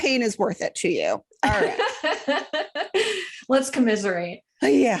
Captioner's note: laughs